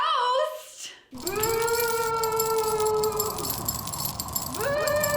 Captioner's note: spooky voice offscreen